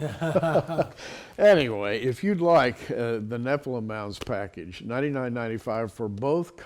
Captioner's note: laughing